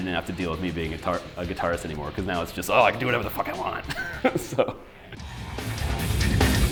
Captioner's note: laughs